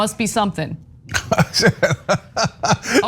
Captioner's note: laugh